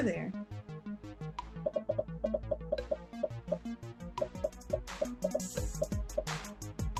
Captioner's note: upbeat music; popping